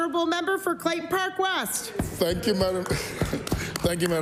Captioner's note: applause